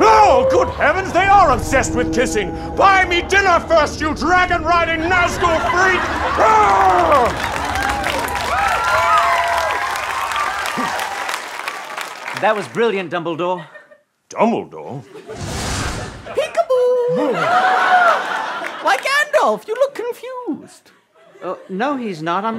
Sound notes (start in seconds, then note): 6.5 yells; 17.5 gasps